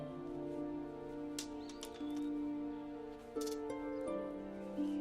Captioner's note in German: Klappern